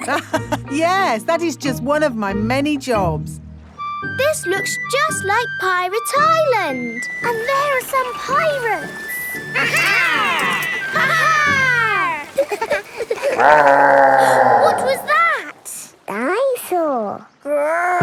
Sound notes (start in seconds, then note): 0.2 laughs; 12.9 laughing; 13.9 growling; 14.7 gasps